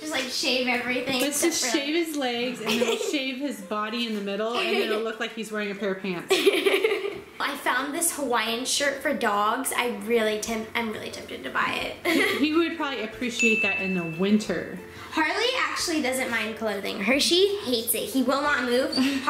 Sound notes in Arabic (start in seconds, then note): 6.3 يضحك